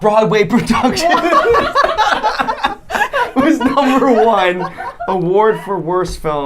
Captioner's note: laughing